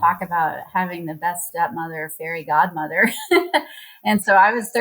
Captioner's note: laughs